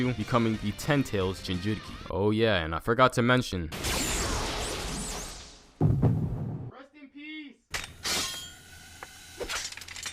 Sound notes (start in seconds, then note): 5.8 heartbeat